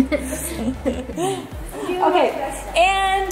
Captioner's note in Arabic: ضحك